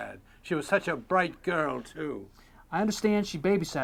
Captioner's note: none